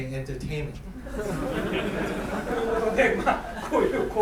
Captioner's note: laughing; speaking in foreign language